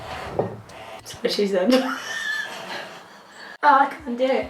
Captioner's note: laughing